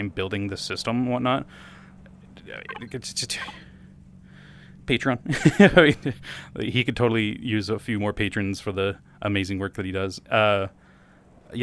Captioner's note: laugh